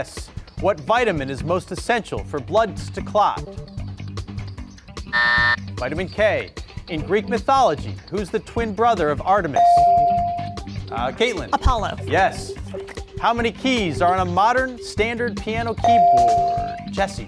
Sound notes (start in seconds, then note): 3.5 buzzer ringing; 9.6 bell rings; 15.8 bell rings